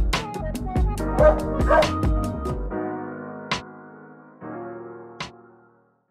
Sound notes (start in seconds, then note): 1.2 dog barks